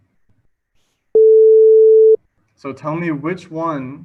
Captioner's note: sine wave beeping